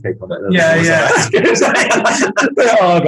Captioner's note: group laughing